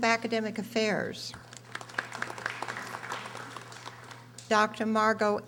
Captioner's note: audience applauding